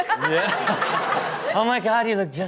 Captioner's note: laughs